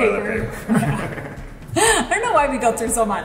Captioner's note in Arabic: كلاهما يضحك